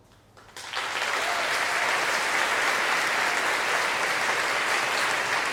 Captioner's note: applause and cheering